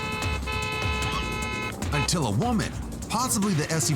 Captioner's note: car horn